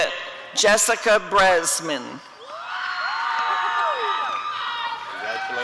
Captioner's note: applause and cheering